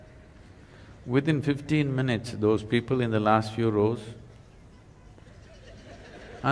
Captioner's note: laughter; 笑聲